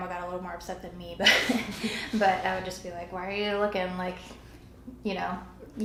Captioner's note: laughter